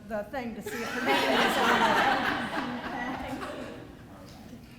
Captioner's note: laughter